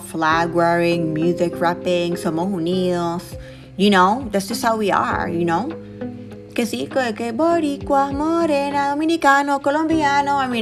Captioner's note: speaking Spanish